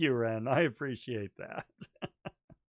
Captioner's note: chuckling